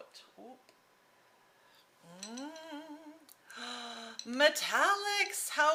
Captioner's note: humming